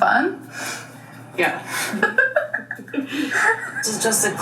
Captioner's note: laughs